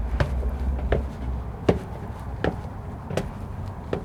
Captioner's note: footsteps